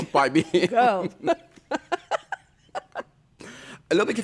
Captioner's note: laughter